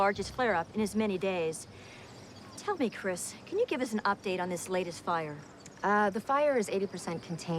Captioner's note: none